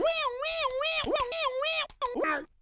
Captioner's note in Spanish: w-waaowao